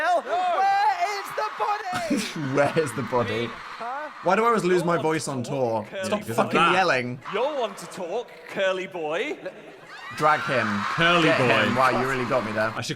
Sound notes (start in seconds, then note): 2.2 chuckling; 9.9 audience cheering